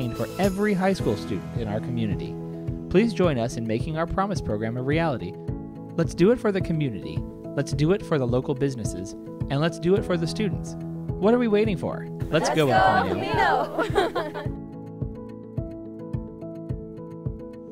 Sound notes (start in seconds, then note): 12.4 laughter; 14.9 upbeat music